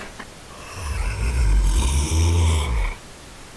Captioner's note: ████████ growls